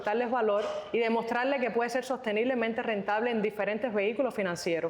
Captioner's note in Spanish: resoplido